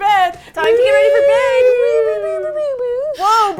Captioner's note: woowoowoowoosh